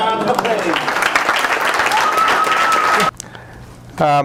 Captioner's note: applause